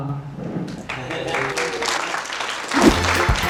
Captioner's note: audience applause